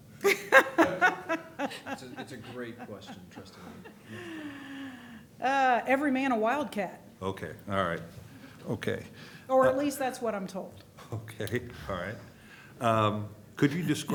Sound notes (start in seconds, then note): 4.2 laughter